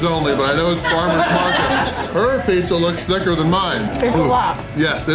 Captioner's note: crowd laughter